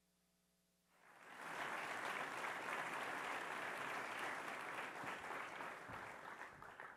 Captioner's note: applause